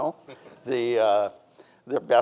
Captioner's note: chuckles